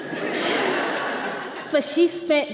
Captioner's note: audience laughing